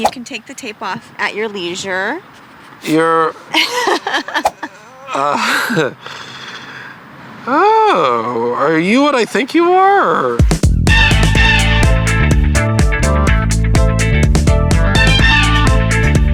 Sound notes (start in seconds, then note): 3.5 laughs; 10.4 disco music